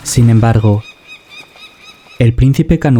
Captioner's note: bird